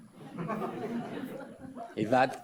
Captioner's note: audience laughs